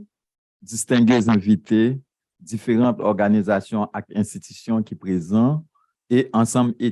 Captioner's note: speaking a foreign language